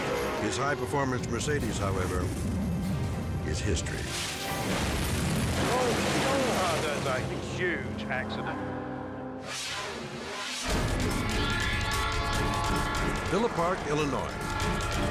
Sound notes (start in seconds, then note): 4.7 car crashing; 9.6 dramatic music; 11.2 train siren wailing